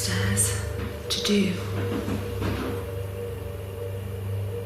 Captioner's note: rustling